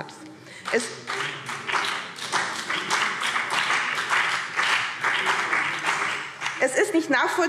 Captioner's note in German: Beifall BÜNDNIS 90/DIE GRÜNEN